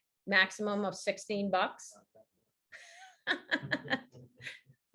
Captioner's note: laughs